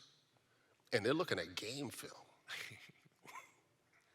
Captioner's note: giggles